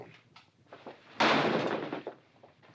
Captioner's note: door slamming